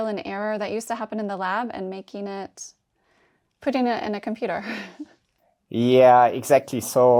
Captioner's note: laughs